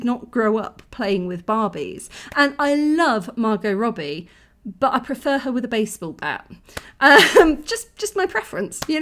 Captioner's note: laughing